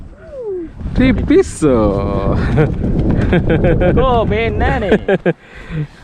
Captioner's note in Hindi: हंसते हुए